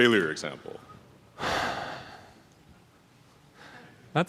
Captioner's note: sighs